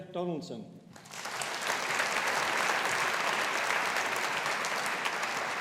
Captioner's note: audience applauding